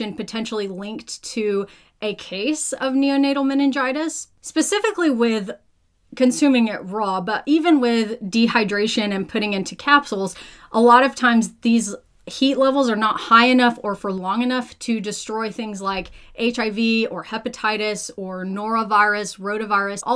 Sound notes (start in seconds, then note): none